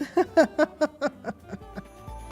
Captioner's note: laughter